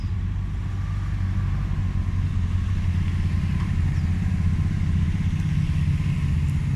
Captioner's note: traffic in background